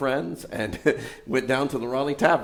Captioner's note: laughs